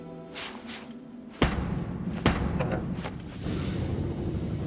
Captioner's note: knocking